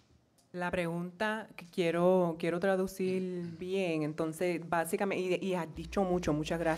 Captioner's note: speaking in foreign language